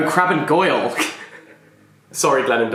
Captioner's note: laughs